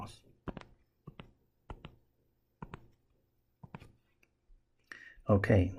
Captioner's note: tapping Sounds